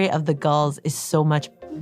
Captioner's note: none